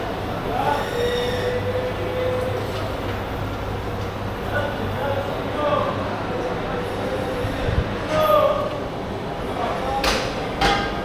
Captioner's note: crowd chattering